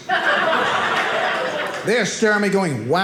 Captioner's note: audience laughing